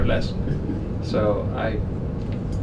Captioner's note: laughs